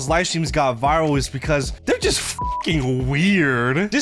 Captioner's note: beep